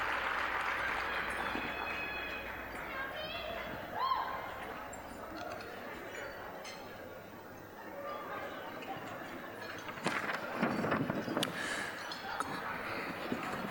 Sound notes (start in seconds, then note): 0.0 applause; 2.7 general chatter